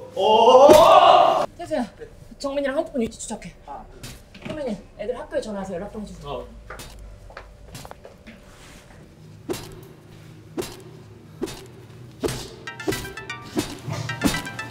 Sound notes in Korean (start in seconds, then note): 9.5 쇠 파이프로 때리는 소리; 12.6 시훈의 스마트폰 전화벨소리